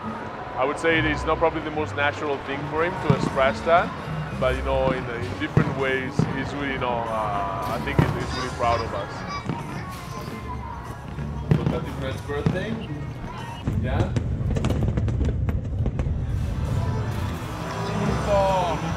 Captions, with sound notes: I would say it's probably not the most natural thing for him to express that but in different ways I think he's really proud of us. [fireworks popping] [fireworks popping]